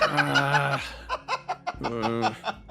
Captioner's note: laugh